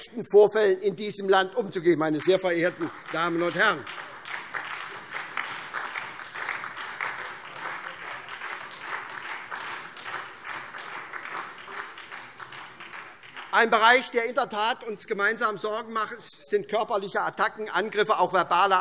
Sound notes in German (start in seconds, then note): 3.8 Beifall SPD und DIE LINKE